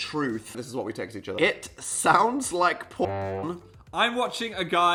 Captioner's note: honk